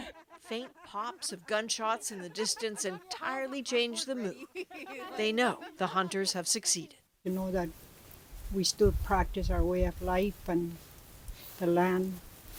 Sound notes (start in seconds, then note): 4.2 laughter